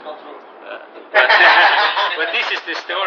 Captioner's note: gülüşmeler